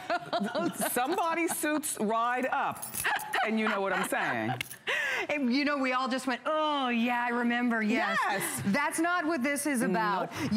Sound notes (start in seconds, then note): 0.0 laughter